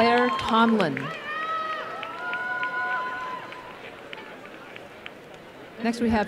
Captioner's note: applause and cheering